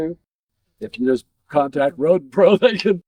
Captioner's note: laughs